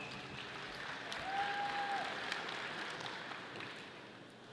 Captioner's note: audience applauding